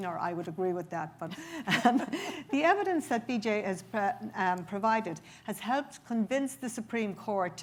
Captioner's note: chuckles